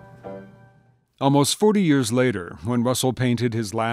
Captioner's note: voiceover